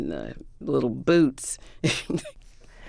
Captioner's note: laughter